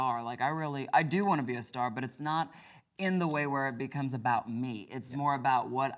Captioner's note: none